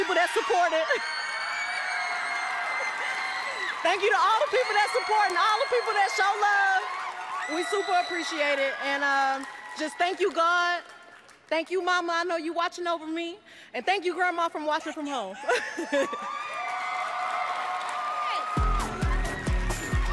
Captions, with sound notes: THANK YOU TO ALL THE PEOPLE THAT SUPPORTED IT. THANK YOU TO ALL THE PEOPLE THAT SUPPORTED, ALL THAT PEOPLE THAT SHOWED LOVE. WE SUPER APPRECIATE IT. AND JUST THANK YOU, GOD, THANK YOU, MAMA, I KNOW YOU'RE WATCHING OVER ME. AND THANK YOU GRANDMA FOR WATCHING FROM HOME. 00:01:39.866,00:00:00.000 [ CHEERS AND APPLAUSE ]